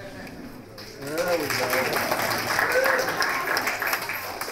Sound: applause

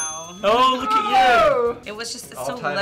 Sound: bell dings

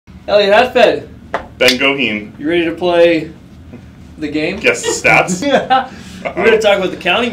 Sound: laughs

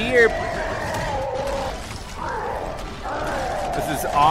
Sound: Bowser roars

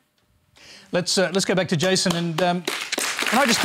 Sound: applause

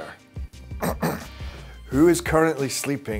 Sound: clearing throat

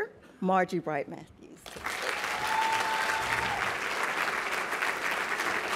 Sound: applause

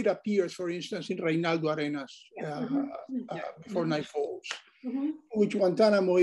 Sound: speaks foreign language

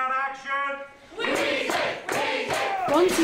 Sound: chanting

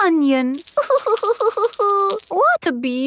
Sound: crying

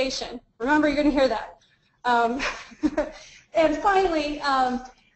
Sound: laughs

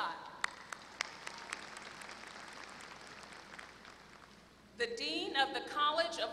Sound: applause

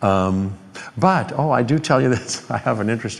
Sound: chuckling

